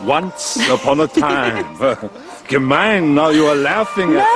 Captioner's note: Tertawa